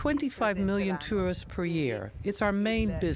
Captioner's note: through translator